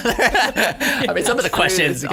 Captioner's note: all laughing